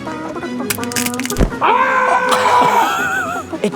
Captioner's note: dans neck cracks; yells; judges laughing